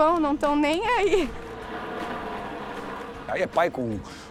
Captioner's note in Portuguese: atrito das rodas no chão